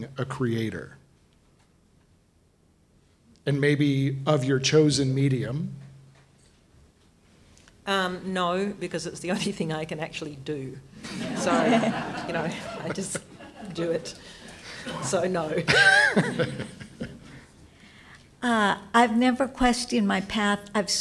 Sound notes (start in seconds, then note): 11.0 audience laughs; 15.6 laughter